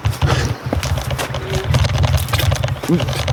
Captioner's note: vomiting sound